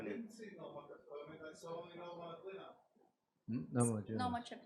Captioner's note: man in audience speaking foreign language